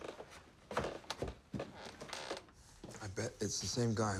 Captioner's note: ladder creaks